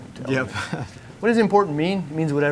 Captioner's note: chuckles